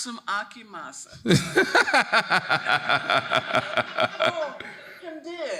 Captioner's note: laughing; audience laughing